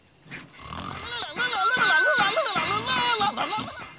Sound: silly Noises

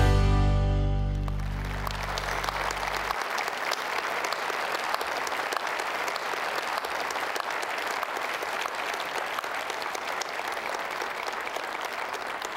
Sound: applause

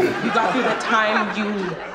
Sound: laughs

